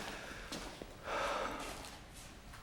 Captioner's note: breathes deeply